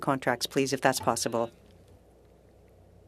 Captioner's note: speaking french